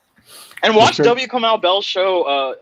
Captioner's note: laughing